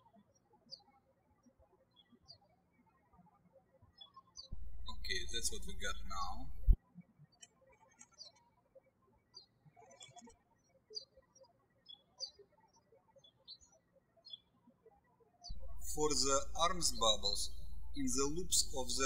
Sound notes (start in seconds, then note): 8.5 birds chirping